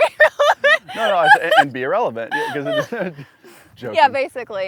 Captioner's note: laughs